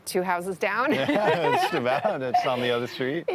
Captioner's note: laughs